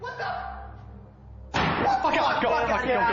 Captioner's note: screaming